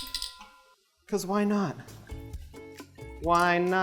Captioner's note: clinking